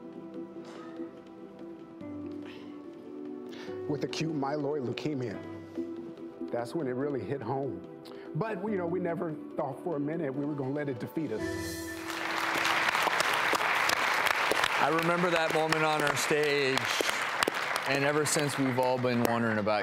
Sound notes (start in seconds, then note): 11.9 audience applauds